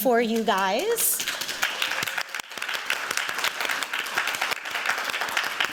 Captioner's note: applause